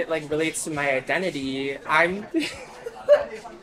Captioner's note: laughing